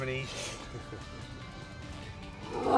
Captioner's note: laughs